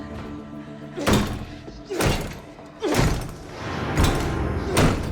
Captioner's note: Paul groans; door lock clanging; dark eerie music